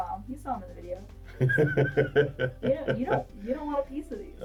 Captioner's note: laughs